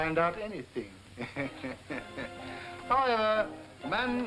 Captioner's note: all chuckling